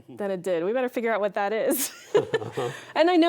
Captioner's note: laughing